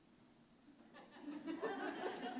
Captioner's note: laughter